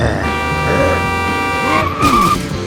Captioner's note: car horn blares; brakes squeal